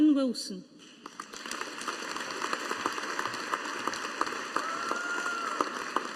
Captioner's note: audience applauding